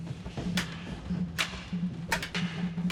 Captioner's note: swords clanking